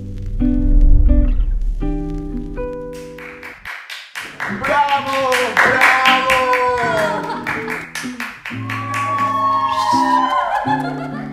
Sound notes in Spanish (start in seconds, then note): 2.9 aplausos; 8.6 risas y entusiasmo